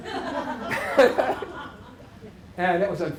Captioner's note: laughter